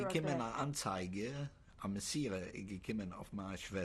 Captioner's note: speaking yiddish